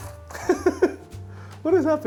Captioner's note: laughs